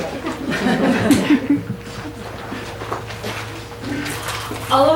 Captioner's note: audience laughs